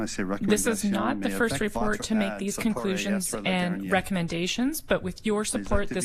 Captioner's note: speaking French